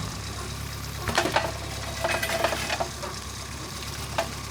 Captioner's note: log thuds